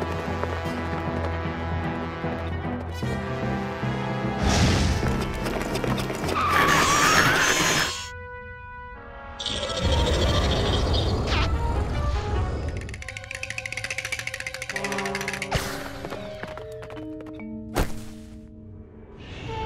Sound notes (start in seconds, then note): 4.9 hooves screeching; 7.7 metal grinding; 9.3 growls; 12.8 horse shivering